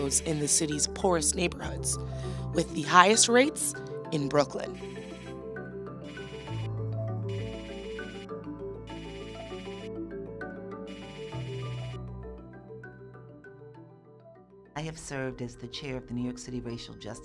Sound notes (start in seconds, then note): 2.7 pensive music; 4.8 text clicking